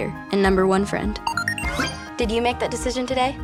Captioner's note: beeping